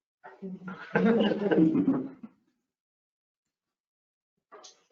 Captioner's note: laughs